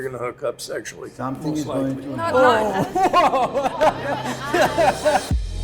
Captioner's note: group clamors